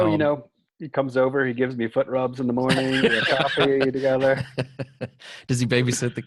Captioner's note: laughter